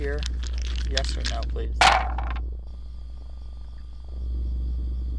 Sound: dice thumping

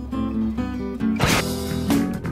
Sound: whoosh

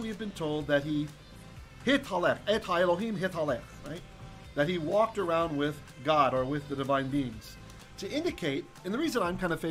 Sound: Hebrew

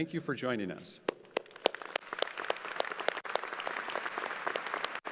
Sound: crowd applauding

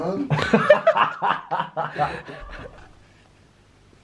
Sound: laughing loudly

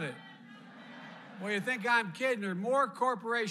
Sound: laughter

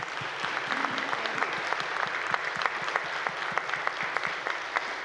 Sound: audience applauding

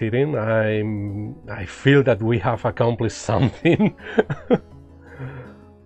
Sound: laughs

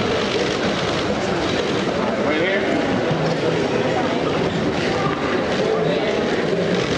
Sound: applause

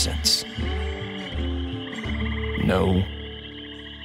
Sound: swamp animals chattering continues

